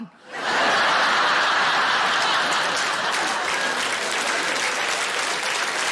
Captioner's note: audience laughing and applauding